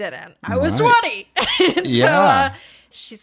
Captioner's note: laughs